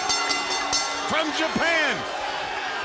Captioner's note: bell ringing